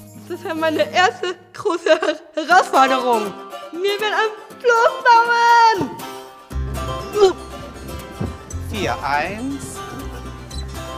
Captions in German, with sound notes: Das war meine erste große Herausforderung. Wir werden ein Floß bauen! (Ächzen) Vier. Eins ... (Fröhliche Musik)